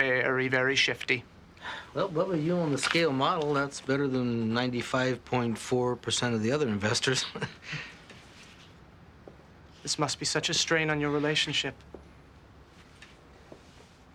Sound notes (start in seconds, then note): 7.2 Joe chuckling